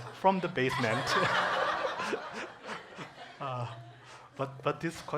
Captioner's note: congregation laughing